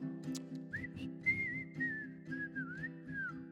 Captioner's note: whistling